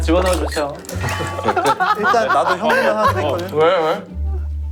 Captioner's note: Phì cười